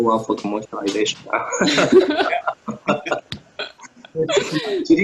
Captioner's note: laughter